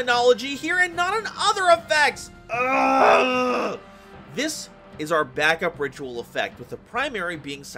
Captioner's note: pained Wailing of a Tortured Beast